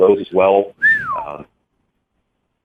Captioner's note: whistles admiringly